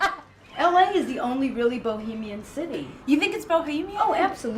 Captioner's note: laughing